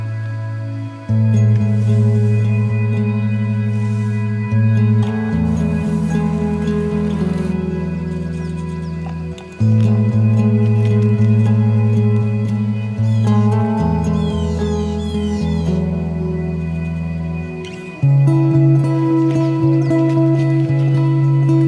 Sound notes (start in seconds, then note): 13.0 birds cawing; 18.2 gentle music continues